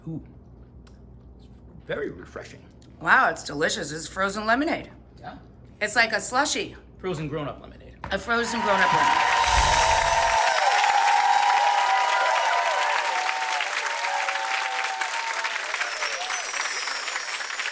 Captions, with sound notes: Ooh (smacks lips) that's very refreshing. Wow, it's delicious, it's frozen lemonade. Yeah. It's like a slushie! Frozen grown-up lemonade. A frozen grown-up lemonade. (crowd cheering)